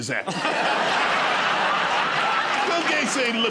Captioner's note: laughter